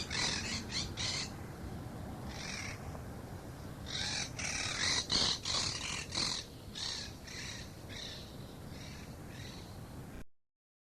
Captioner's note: quaker parrots vocalising